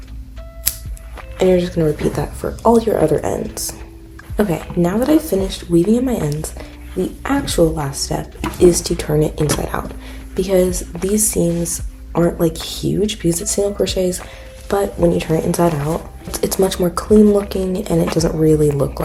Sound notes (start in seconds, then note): 0.6 scissor cuts